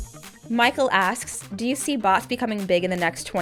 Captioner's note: voiceover